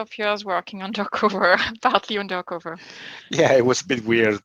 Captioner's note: laughing